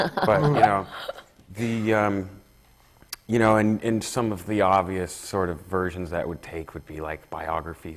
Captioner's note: laughs